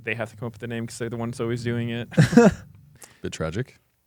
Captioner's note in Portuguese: risos